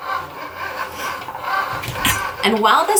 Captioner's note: machine buzzing